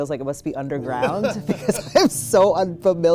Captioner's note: laughs